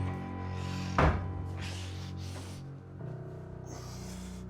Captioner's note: Mark panting